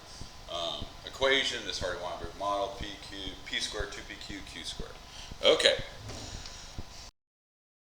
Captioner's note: mic cuts out